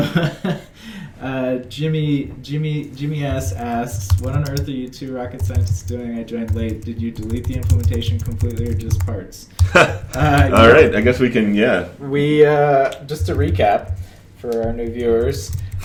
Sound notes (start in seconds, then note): 0.0 laughs; 9.6 chuckles